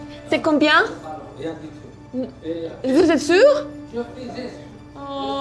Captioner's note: speaking in a foreign language